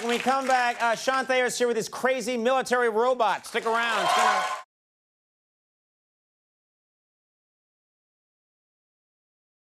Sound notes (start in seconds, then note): 3.4 audience applauds